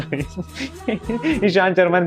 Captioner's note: laughing